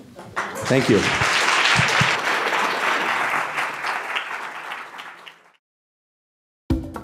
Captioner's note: audience applauds